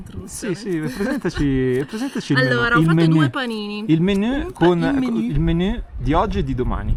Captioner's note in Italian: risate